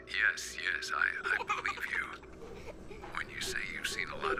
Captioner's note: girl laughs